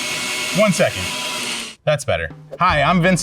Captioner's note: blender stops roaring; mixer roars; jazz music